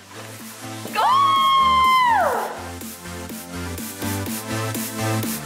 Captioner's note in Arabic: تصرخ بحماس; موسيقى مبهجة